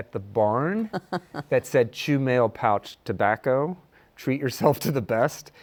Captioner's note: laughs